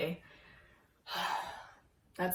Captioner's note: sigh